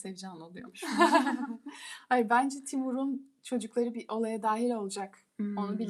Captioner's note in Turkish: kahkaha